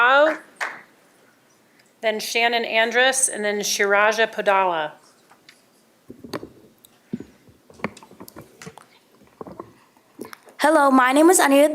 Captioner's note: applause